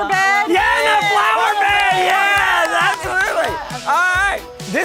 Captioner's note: crowd cheers